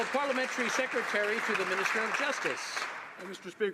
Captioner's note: some Applause